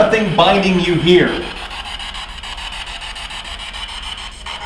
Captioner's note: static buzzing